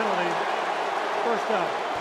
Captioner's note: booing